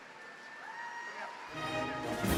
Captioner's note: audience cheers; lively orchestral music